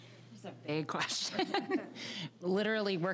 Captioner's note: all laughing